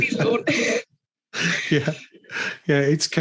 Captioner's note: laughs